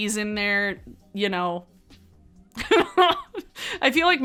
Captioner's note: laughs